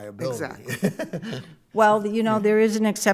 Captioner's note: laughing